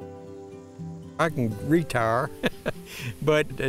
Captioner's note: chuckles